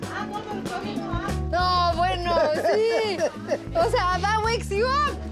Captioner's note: laughs